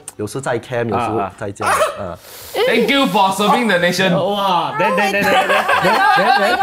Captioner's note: gasps